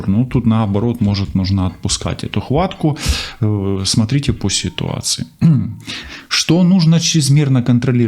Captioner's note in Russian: откашливается